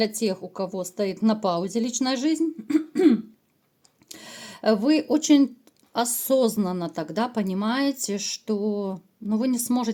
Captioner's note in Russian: откашливается